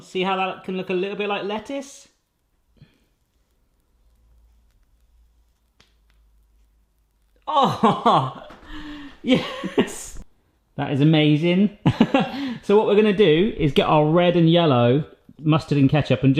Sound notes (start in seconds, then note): 11.9 laughing